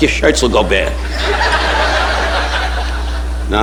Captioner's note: audience laughing